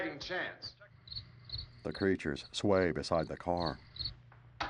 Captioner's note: crickets chirping